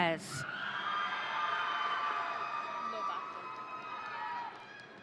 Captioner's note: audience cheering